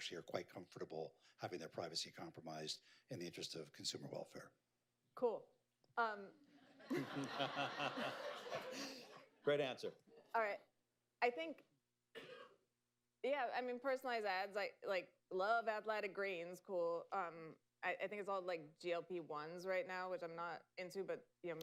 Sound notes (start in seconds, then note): 6.6 laughter